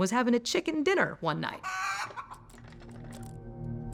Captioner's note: chicken clucking; typing